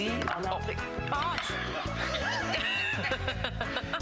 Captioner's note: rires